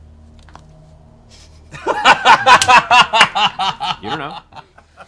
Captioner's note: laughter